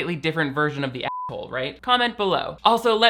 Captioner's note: beep